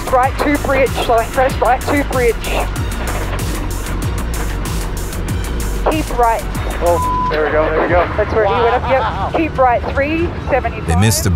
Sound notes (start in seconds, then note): 3.1 suspenseful music; 6.9 beep